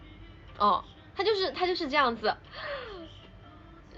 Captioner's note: inhales